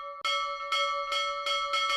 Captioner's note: ding DING; ding DING DING; ding DING DING DING DING; ding DING DING DING DING DING DING DINGGGG